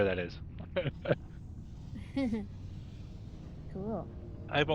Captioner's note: laughing